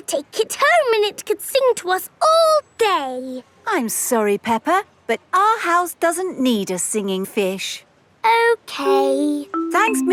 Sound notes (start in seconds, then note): none